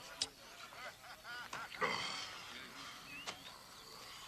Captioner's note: Bosk groaning